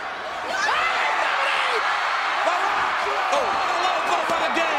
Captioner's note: all yelling